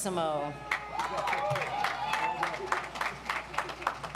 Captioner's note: audience applauds